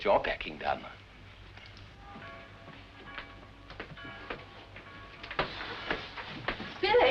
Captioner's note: church Bells